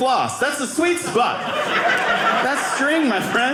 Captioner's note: audience laughing